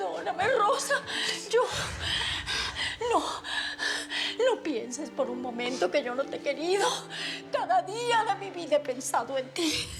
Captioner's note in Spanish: Jadeando